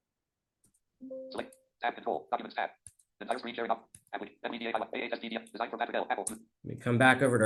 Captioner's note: screen reader narrating rates extremely rapidly; screen reader narrating extremely rapidly